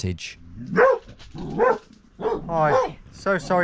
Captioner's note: dog barks